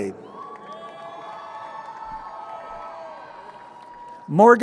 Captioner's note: crowd cheering